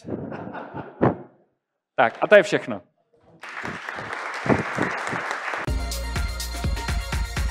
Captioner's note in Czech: Potlesk